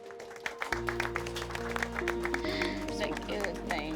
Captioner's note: applause